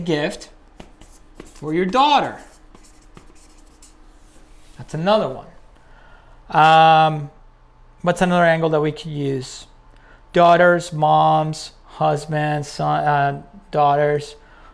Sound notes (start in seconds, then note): 2.9 pen writing